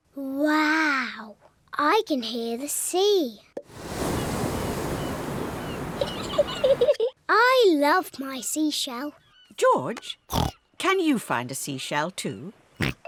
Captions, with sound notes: Wow! I can hear the sea! -(WAVE NOISES) -(SEAGULLS SHRIEK) (GIGGLES) I love my seashell. George, can you find a seashell, too?